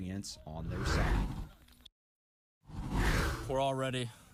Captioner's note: air whooshes